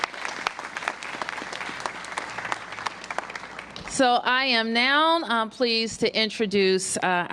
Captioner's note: applause